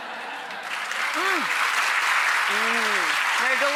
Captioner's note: audience applause